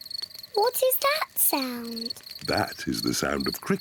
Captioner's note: crickets chirping